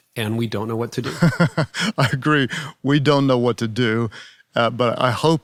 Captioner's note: laughing